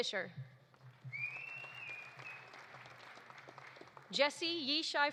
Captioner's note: audience applauding